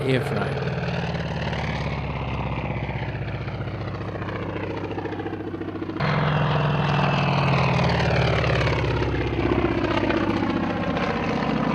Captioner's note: aircraft sounds